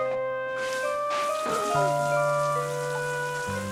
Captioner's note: gasps